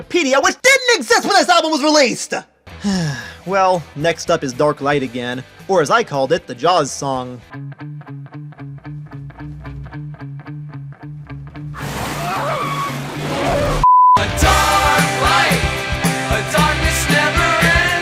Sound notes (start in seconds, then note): 2.7 sigh; 12.0 screaming